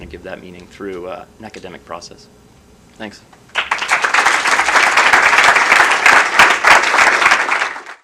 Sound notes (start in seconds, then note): 3.5 applause